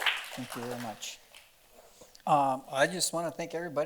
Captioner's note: applause